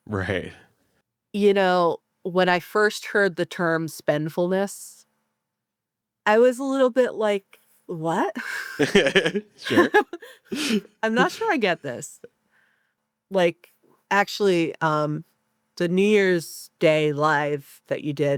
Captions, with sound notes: - Right. - When I first heard the term spendfullness, I was a little bit like, what? - (laughs) Sure. - I'm not sure I get this. Like, actually the New Year's Day live that you did,